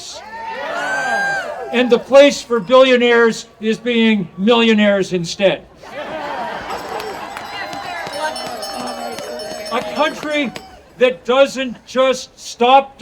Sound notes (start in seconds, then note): 0.1 audience cheering; 5.8 audience laughing; 6.5 bell ringing